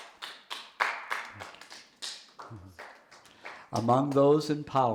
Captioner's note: audience member applauding